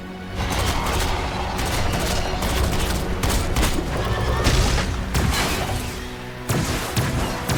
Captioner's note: dramatic music; gun blasting